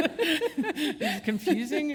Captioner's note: chuckle